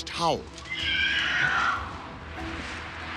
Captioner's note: screeching